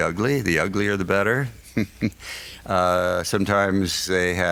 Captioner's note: laughs